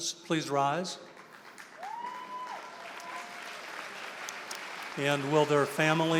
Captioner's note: applause